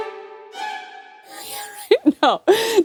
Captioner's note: wheezes